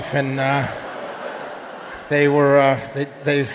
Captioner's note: audience laughing